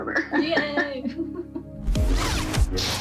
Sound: chuckles

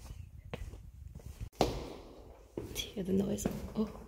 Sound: loud step

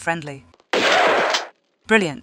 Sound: bam

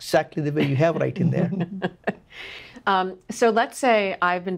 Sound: laughs

